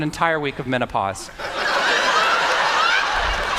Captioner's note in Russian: Смех